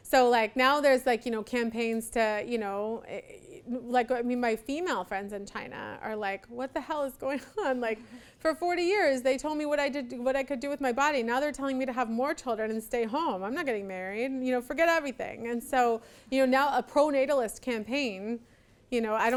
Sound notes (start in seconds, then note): 7.5 laughs